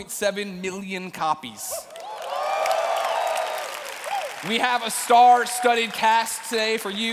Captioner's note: cheers and applause